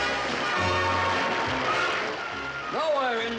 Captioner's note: audience applauds